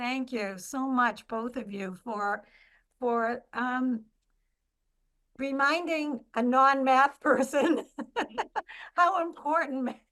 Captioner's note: laughs